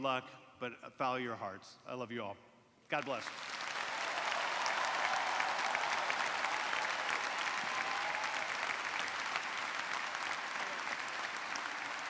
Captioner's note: cheers and applause